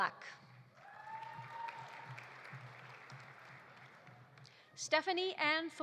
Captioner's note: audience applauding; audience cheering